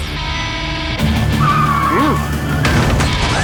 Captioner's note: tires squealing